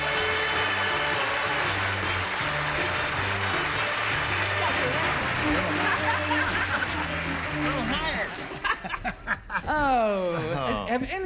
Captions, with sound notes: [applause] [chattering] - Little higher. - Oh.